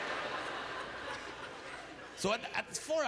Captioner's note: audience laughter